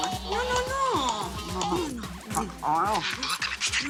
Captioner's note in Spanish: Suena el celular